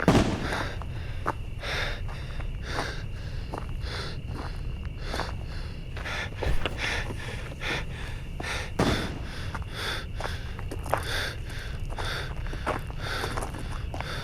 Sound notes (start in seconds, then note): 3.6 heavy breathing